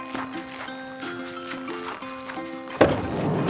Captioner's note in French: footsteps crunching; door rumbles and clatters